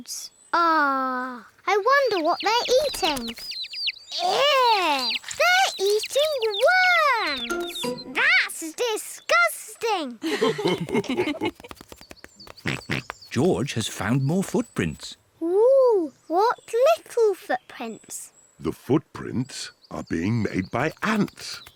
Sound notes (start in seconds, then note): 10.2 mummy and daddy pig laugh; 12.4 oinks